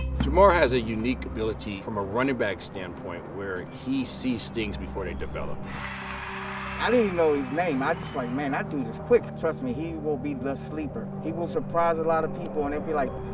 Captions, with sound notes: - Jermar has a unique ability from a running-back standpoint where he sees things before they develop. (crowd cheering) - I didn't even know his name. I was just like, man, that dude is quick, trust me. He will be the sleeper. He will surprise a lot of people and they'd be like